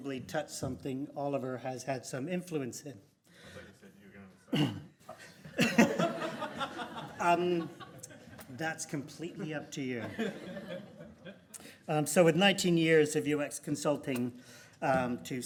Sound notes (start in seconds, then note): 5.1 laughing